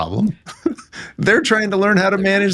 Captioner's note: laughing